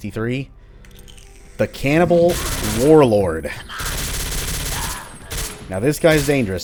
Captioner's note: Rage-filled MAC firing